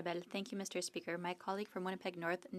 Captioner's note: speaking French